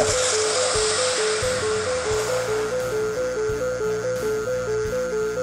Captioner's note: explosion